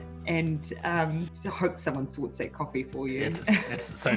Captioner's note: laughing